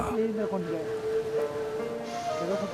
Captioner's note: speaking foreign language; soft music